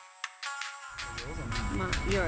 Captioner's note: seatbelt warning